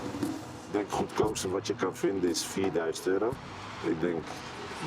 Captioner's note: Dutch spoken audio